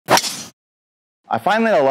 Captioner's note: golf ball lashing